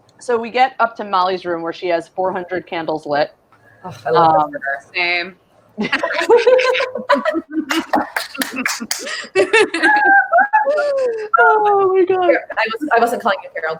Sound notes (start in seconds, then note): 4.1 sighs exasperatedly; 5.8 all laugh; 8.0 claps